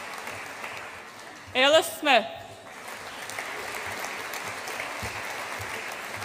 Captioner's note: audience applauds